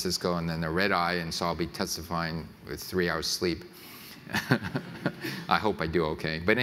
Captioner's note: laughs